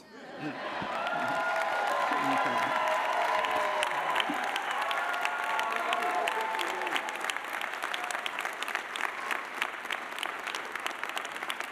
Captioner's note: applause